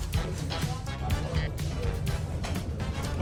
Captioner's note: blowing on it